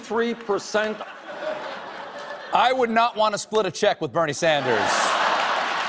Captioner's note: laughter